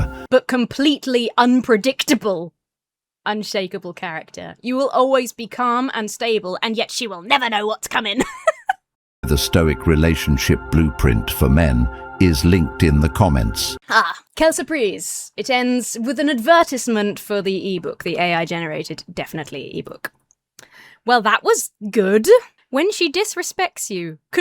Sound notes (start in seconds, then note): 8.0 laughs; 9.4 AI Voice